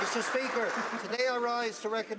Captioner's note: some Applause